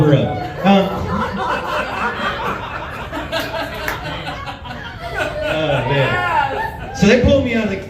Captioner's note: laughs